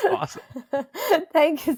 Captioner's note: laughs